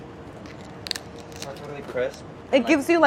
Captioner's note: shell crunches